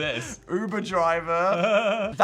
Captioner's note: Phil laughs